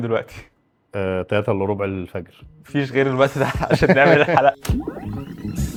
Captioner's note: laughs